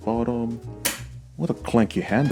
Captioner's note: handle clicks